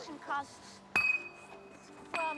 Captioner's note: bottle clinks